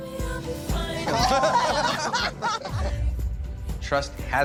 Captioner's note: laughter